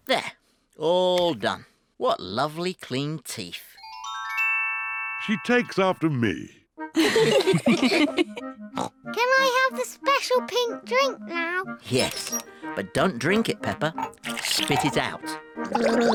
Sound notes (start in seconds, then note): 7.0 all laugh; 8.8 snorts; 15.6 gargles